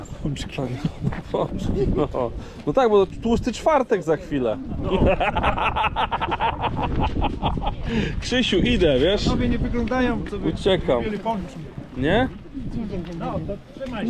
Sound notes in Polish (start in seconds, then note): 4.8 śmiech